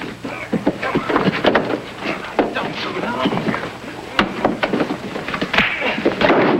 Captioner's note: bodies thudding; robber groaning; fist pounding